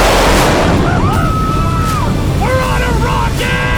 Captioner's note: cheering